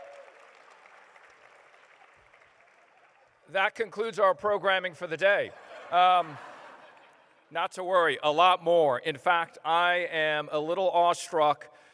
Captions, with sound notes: [applause] That concludes our programming for the day. [laughter] Not to worry, a lot more. In fact I am a little awestruck --